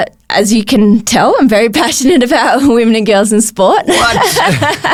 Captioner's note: laughs